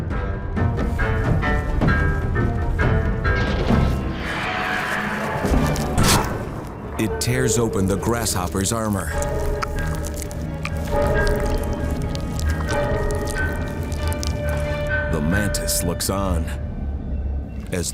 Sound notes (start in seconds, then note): 0.1 dramatic music; 10.3 dramatic music; 10.3 wart biter munching